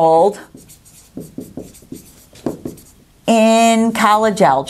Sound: sounds of marker writing

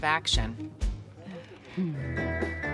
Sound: sighs

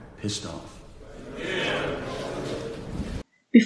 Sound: crowd

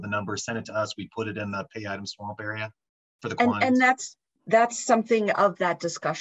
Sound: talking

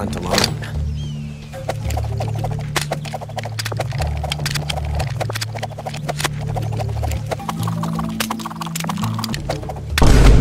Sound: gun Spinning Intesifies; Vine Boom

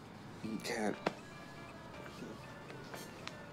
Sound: phone chiming

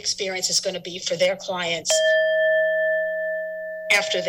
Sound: alarm ringing

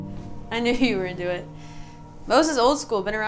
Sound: sighs

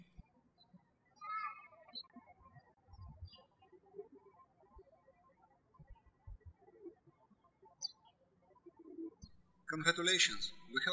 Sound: birds chirping

